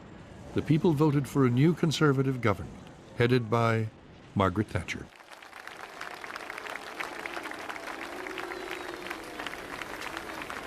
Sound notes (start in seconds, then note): 5.1 crowd applauding and booing